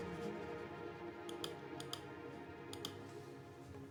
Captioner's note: mouse clicking; tense orchestral music